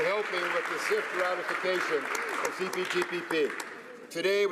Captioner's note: some Applause